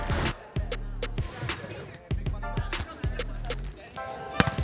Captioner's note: upbeat music; chattering; upbeat music